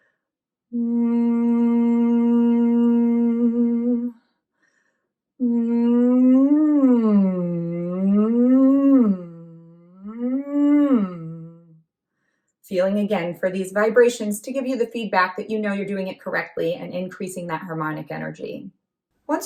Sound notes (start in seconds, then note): 5.4 humming